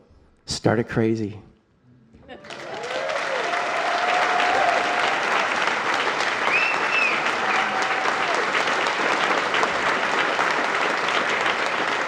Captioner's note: applause